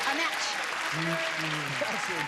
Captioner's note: clapping